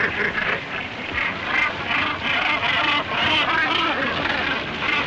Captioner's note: squawking